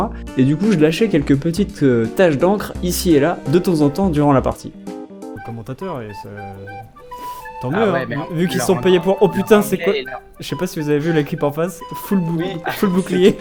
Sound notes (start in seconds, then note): 5.3 chatting